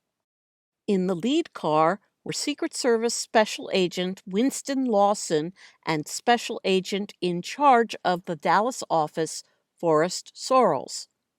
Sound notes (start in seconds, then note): none